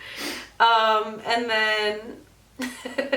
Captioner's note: laughs